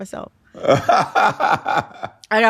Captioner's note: laughter